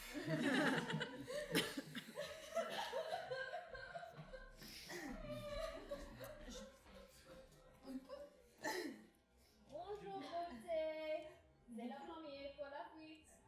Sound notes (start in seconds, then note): 2.3 sobbing